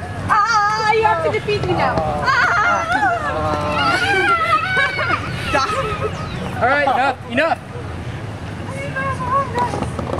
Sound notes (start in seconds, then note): 3.4 Plot Bunny's attack yell gradually turns into a pathetic scream of defeat